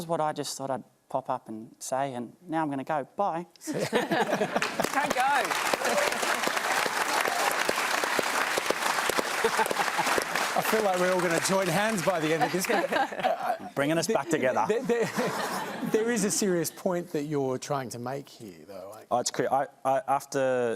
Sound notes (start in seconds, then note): 3.6 laughter; 6.5 applause